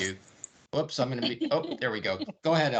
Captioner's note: laughing